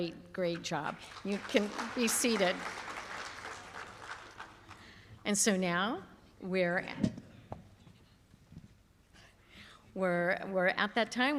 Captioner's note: applause